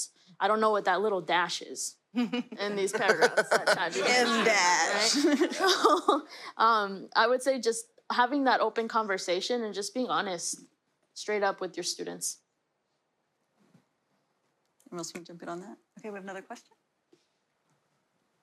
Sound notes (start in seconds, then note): 2.2 laughter